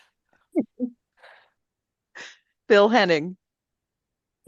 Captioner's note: laughter